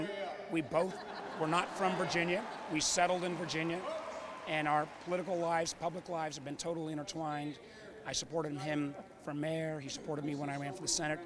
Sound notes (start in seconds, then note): 1.4 cheers & applause